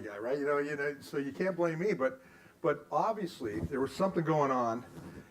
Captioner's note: none